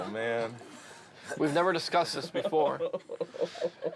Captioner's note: laughing